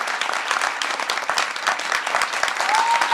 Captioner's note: applause